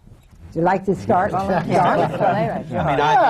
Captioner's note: laughter